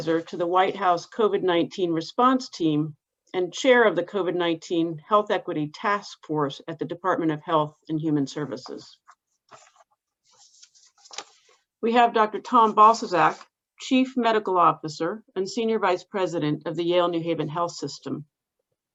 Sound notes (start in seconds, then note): 8.5 pages shuffling